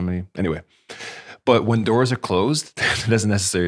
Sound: chuckles

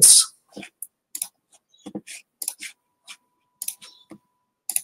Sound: mouse clicking

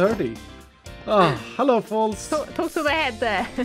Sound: sighs

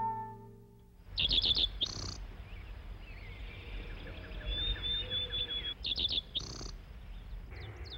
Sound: birds chirping

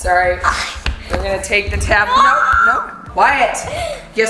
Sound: screeching

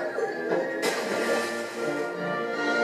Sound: splash

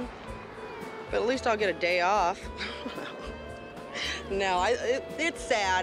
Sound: laughs

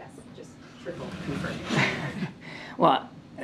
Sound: laughs

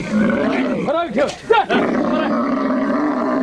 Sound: foreign spoken audio

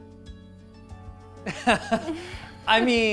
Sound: laughs

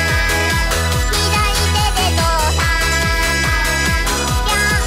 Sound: prrumph-prrumph-prru-prrumph!

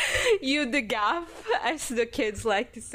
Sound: laughs

